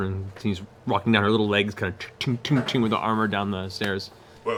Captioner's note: clanging